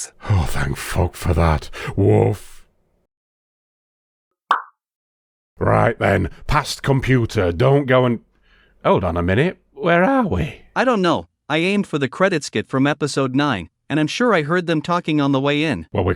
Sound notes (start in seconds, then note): 4.5 pop